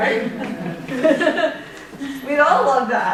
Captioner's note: laughter